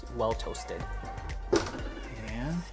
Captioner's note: oven door closes